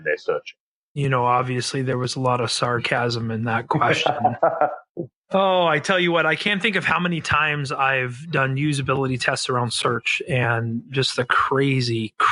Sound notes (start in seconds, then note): 3.6 laughs